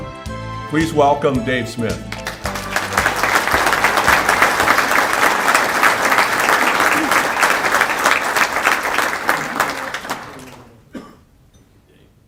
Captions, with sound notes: Please welcome Dave Smith. (applause)